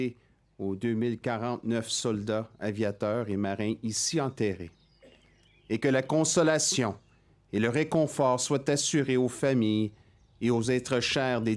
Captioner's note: speaking French